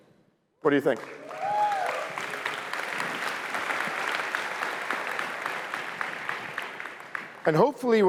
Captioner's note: applause